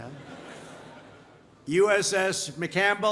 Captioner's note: laughter